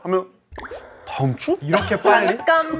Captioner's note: panicking; hahahaha